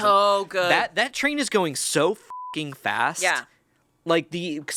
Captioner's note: beep